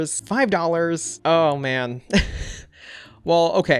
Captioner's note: chuckles